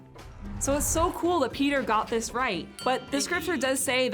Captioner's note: bell dings